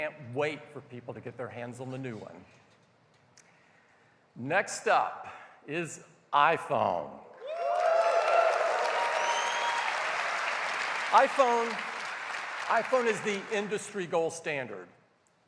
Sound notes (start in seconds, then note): 5.9 cheers and applause